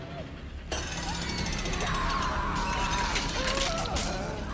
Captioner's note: gears ticking